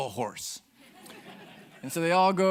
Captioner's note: audience laughing